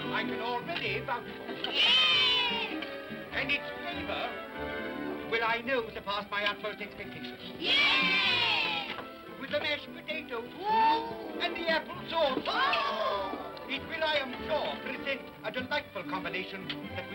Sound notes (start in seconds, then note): 1.6 children cheer; 7.6 children cheer; 10.4 excited vocal sounds